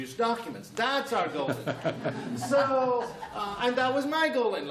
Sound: laughter

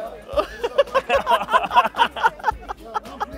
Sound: laughs

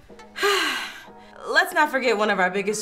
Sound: exhales

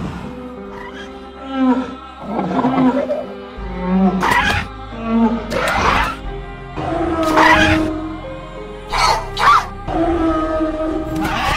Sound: stegosaurus Sounds

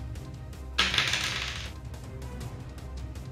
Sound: dice rolling

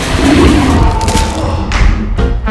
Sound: monster growls; screams

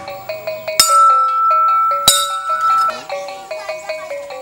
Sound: the sound of the sign bell

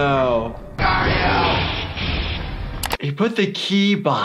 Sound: victim shouting

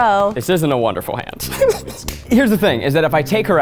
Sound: laughs

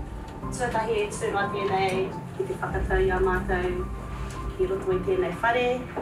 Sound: person speaking Māori language

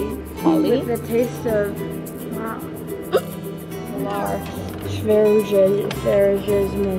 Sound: speaking in foreign language

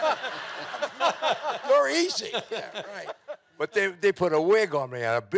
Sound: audience laughing

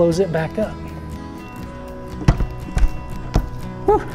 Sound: cockpit door clicking; sighing

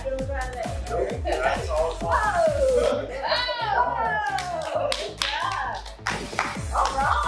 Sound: clapping

